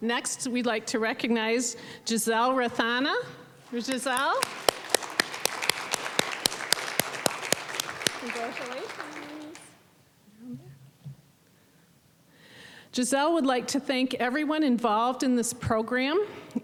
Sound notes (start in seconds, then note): 5.4 applause